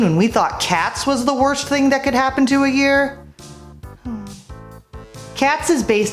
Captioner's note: sigh